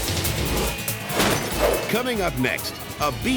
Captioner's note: upbeat pulsating music; graphics whooshing; glass shattering; graphics thump